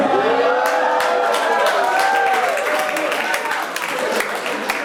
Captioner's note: audience applauds